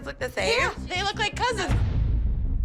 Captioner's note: laughs